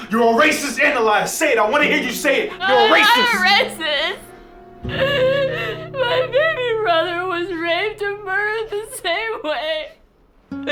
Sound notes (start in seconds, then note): 2.4 crying